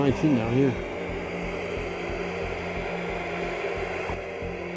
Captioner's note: static buzzing